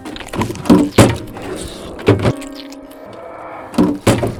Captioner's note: bite squishing